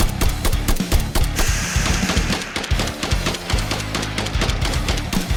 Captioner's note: scorpion hisses